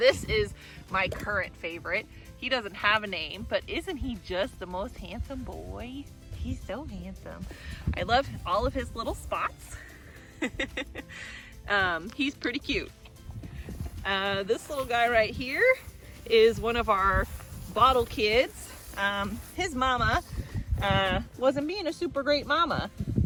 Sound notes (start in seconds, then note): 10.2 laugh